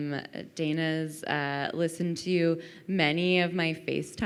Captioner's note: none